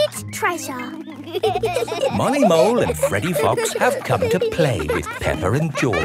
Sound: laughing

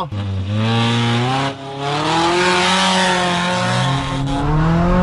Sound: engine revving

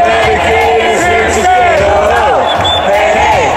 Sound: repeat chant

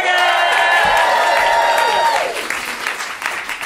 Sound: cheers and applause

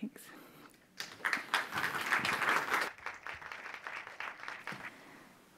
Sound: attendees applauding

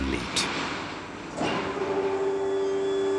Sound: machines whirring

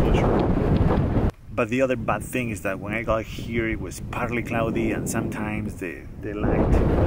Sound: wind

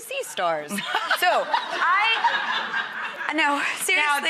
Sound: audience laughing

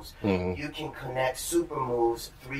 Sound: sounds of agreement

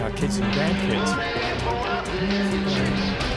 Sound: phone buzzes

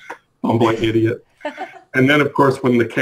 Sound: laughs

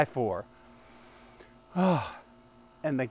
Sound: sighing deeply

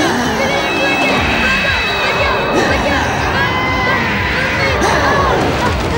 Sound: grunting

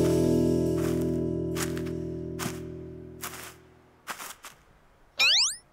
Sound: footsteps

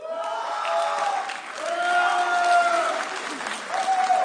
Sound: audience cheering

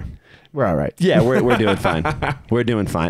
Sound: laughs

